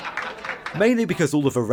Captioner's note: laugh track